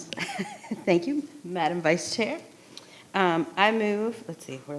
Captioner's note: chuckles